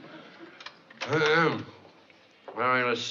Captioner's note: clears throat